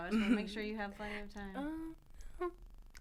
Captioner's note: laughter